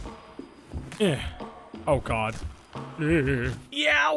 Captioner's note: grunts